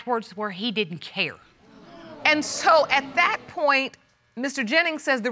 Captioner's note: audience gasps